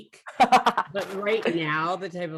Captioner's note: laughs